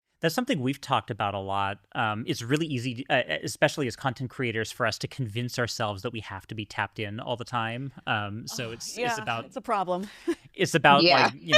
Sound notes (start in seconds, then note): 8.5 sighs; 10.7 chuckles